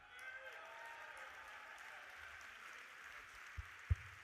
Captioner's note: audience applauding